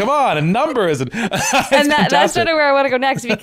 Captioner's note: laughing